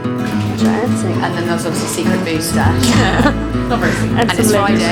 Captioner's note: laughing